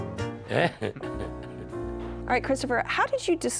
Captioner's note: chuckles